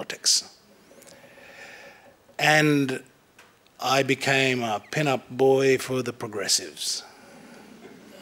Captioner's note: laughter